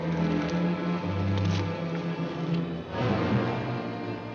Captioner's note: tree branches rustling; dramatic music